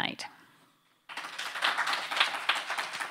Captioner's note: applause